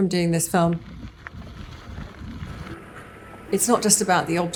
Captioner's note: gravel crunching